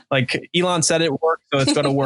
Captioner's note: laughing